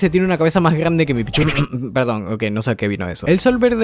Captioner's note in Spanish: sonidos de autointerrupción